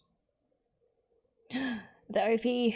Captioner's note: gasps